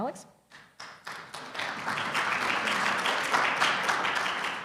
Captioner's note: audience clapping